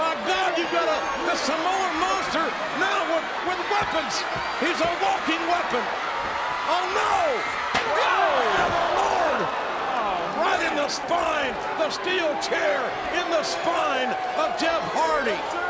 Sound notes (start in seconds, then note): 7.9 chair thuds